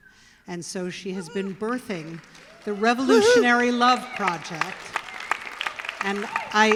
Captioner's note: applause